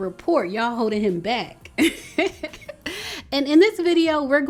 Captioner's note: woman laughing